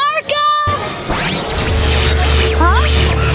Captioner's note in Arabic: ضوضاء الكهرباء